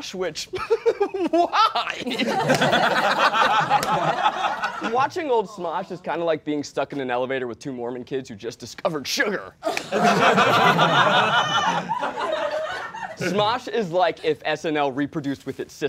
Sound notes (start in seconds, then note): 0.6 laughs; 9.6 all laughing